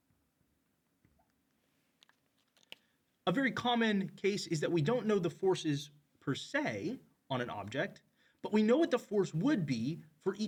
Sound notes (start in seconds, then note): 2.2 marker cap clacks